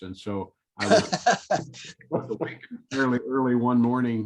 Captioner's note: laughter